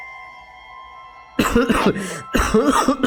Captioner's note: cough cough; cough cough cough cough cough